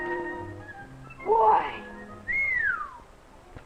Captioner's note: impressed whistle